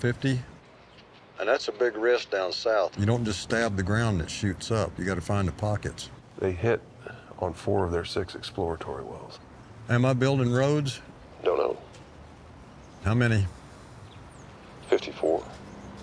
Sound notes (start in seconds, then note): 11.3 on phone; 14.5 on phone